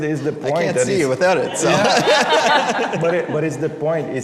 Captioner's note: laugther; laughter